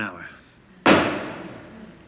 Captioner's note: knock